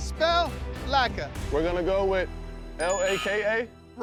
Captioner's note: buzzer sounds